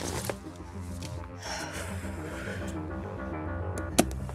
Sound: inhales deeply

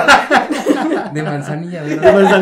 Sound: more laughter

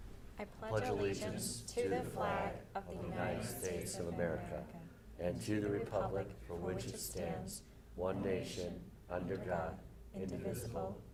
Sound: reciting the pledge of allegiance

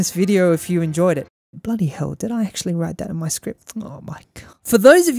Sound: quietly

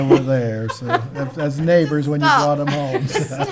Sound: laughing

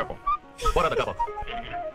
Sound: laughs

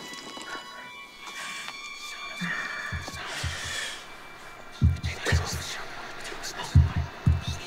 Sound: ghostly voice whispering; heartbeat thudding

